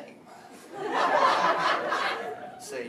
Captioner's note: laughter